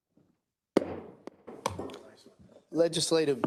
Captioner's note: gavel banging